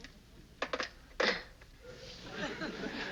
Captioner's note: chuckles